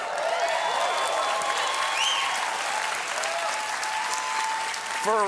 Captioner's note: cheers and applause